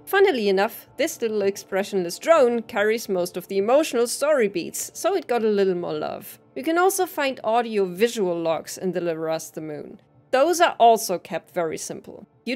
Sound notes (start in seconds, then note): none